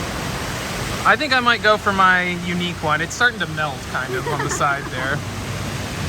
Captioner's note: laughs